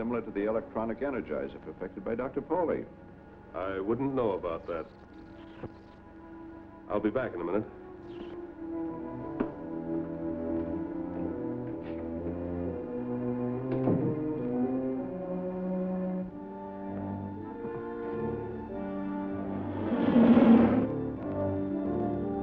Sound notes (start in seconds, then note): 13.7 door shuts